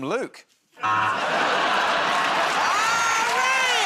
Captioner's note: buzzer